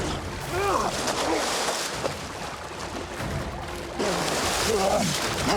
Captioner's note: water splashes